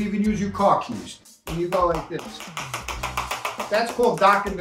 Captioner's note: knife tapping